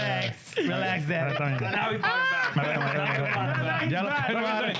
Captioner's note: laughter